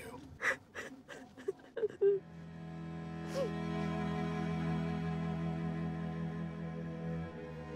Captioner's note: Keely sobs; somber music